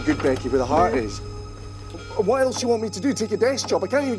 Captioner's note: heartbeat